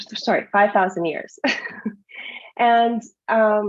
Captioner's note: laughs